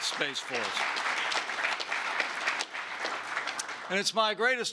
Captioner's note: applause